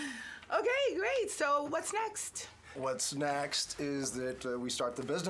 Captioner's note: none